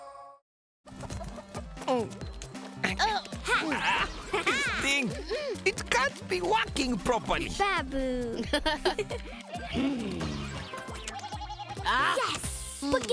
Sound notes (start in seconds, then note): 0.9 hen clucking; 2.4 all grunting; 8.4 both chuckle; 9.0 videogame noises; 9.3 bleating